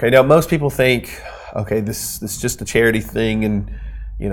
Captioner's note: sighs